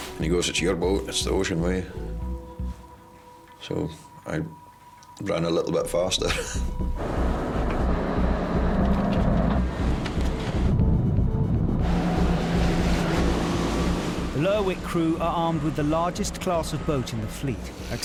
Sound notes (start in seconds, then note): 6.2 laughs; 11.5 engine revving